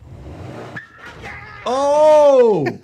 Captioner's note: vehicle revving; tires squealing